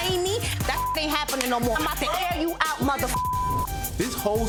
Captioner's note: beep; beep